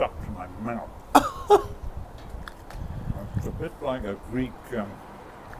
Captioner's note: laughter